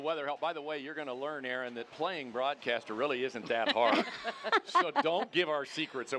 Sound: crowd cheering

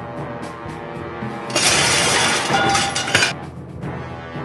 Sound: crash

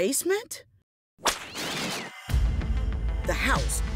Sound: whip cracking

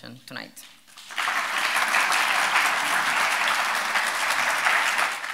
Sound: audience clapping

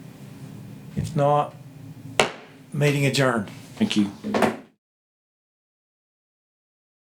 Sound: gavel taps

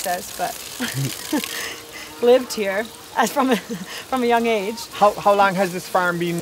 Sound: chuckling

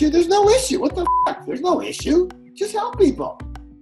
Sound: beeping

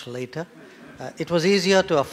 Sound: laughter

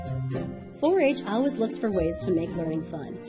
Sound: voiceover

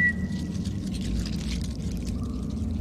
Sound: scuttling

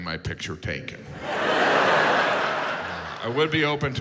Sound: audience laughs

